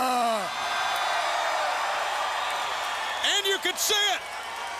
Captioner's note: crowd cheering